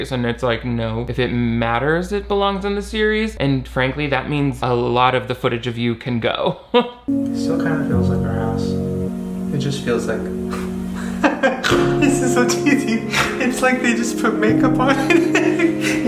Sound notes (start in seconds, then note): 10.4 laughs; 11.3 snorts; 14.4 laughing